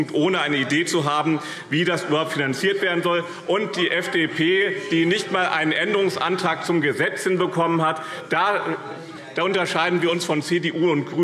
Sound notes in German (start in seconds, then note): 2.8 Zurufe DIE LINKE